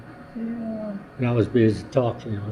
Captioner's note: laughs